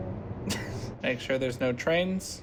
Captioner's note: laughter